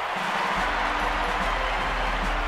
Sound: crowd cheers

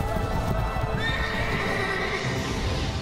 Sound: horse neighing

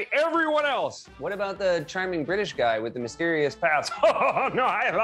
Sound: normal voice

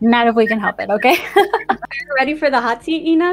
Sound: laughing

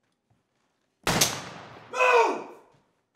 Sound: gunshot

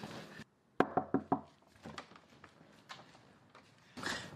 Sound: soft knocking

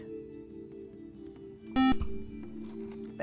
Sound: buzzer

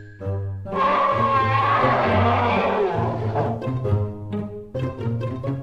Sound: screams in anime

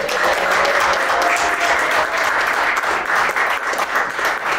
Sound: students applaud and clap

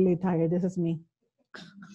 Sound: laughs

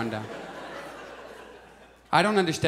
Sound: audience laughs

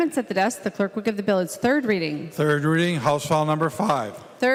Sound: gavel

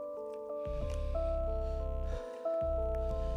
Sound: breathing heavily

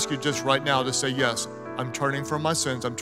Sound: none

